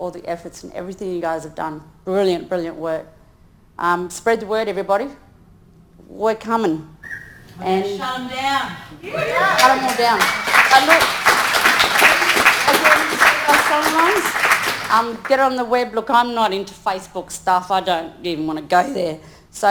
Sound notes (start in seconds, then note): 9.0 audience applauding